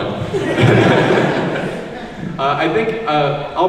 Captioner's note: laughs